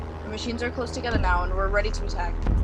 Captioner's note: distant alien warhorn